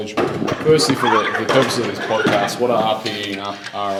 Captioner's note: metal clinging